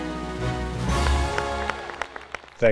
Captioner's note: audience applauding